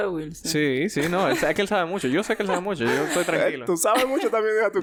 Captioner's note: laughs